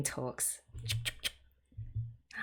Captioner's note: cutting sounds